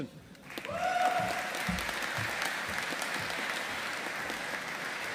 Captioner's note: audience applauding